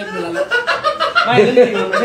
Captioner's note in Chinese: 波在沙發上大笑